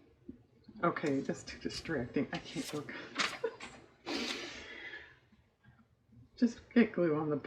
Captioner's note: laughs